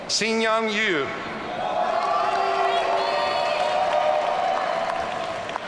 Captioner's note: audience cheering